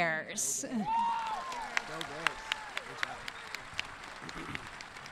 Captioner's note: audience cheering